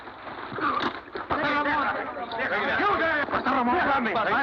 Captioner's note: shouting